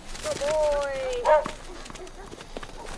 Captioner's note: dog barking